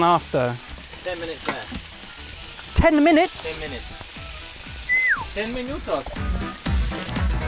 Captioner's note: whistles disconcertedly